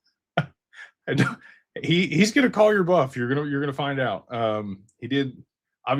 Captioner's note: laughter